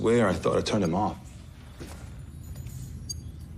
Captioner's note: beeping